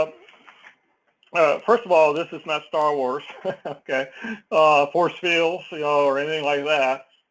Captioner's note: laugh